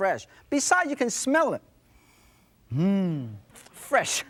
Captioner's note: sniffing